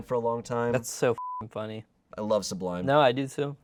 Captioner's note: beep